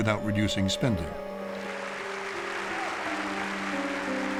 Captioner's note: audience applauding